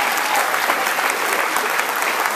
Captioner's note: applause